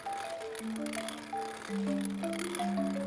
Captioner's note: grinding